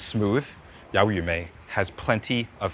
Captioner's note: speaking in foreign language